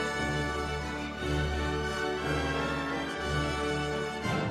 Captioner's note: none